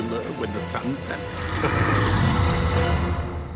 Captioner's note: winterzilla growling